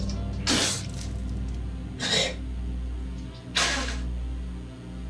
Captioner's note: Michael spits